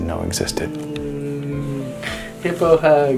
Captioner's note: humming